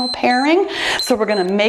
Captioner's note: timer beeps